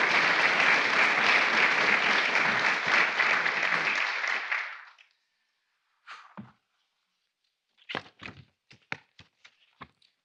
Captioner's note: applause